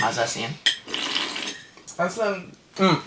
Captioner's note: slurp